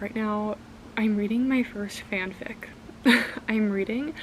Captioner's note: chuckles